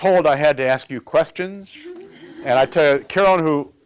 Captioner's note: laughter